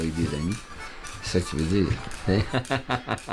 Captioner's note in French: rires